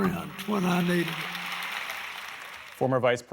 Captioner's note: applause